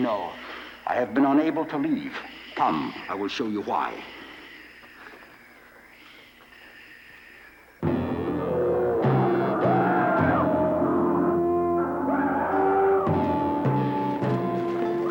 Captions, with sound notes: - No, I have been unable to leave. Come, I will show you why. (intense music) (dinosaurs roaring)